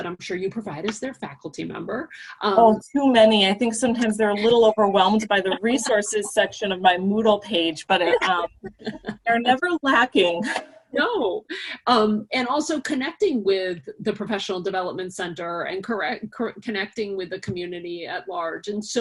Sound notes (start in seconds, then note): 8.0 laughter